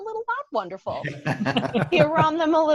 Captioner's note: laughing